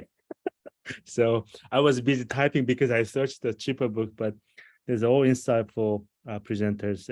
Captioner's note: laughter